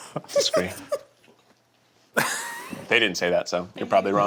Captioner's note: laughing